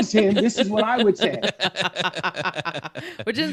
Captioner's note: laughing